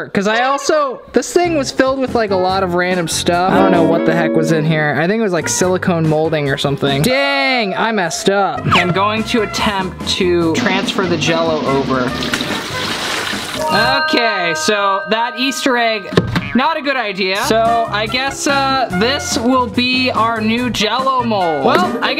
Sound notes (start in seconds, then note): 12.0 liquid pouring